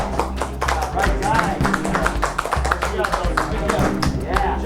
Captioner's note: applause